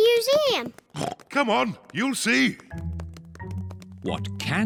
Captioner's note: oinks